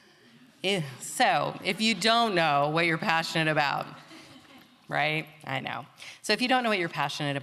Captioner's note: laughter